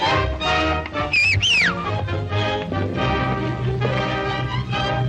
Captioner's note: ranch hand whistling